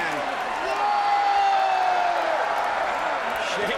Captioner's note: crowd cheers; Sheamus screams